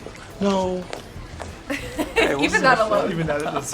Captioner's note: laughter